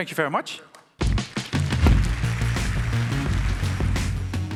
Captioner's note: applause